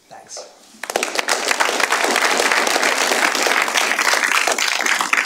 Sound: applause

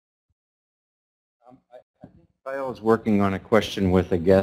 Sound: voiceover

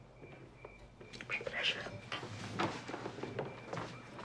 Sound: speaks in foreign language

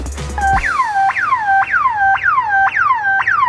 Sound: siren blares

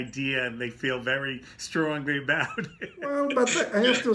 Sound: laughing

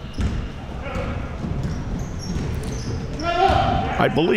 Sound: players yelling

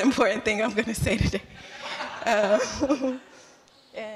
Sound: laughter

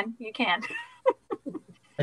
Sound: laughing

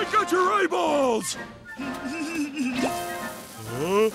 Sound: laughing

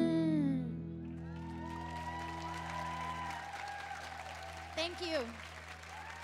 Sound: audience cheering

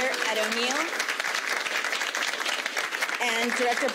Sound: audience clapping

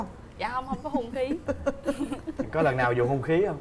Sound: laughing

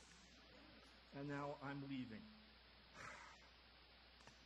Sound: disgusted sigh

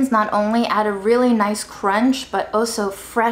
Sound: none

